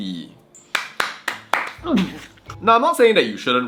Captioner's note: claps